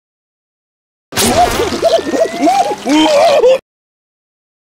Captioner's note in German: Verständliche Affengeräusche